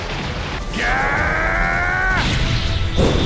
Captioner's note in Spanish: Grita